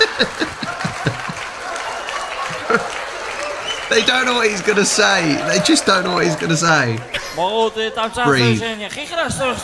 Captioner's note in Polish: Aplauz